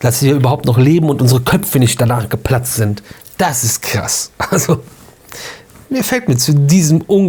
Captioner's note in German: gelächter